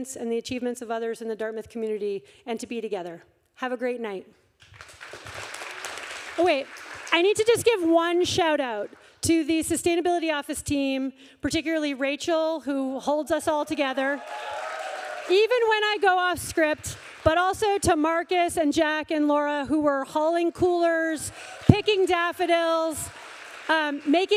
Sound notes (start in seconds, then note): 4.6 audience applauding